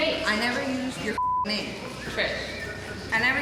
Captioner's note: beep